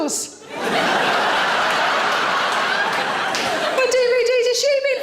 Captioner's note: audience laughing